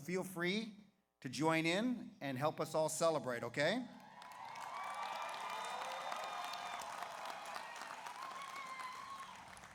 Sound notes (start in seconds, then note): 4.0 audience applauds; 4.1 audience cheers